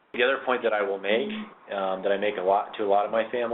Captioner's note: voiceover